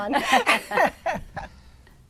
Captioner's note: laughter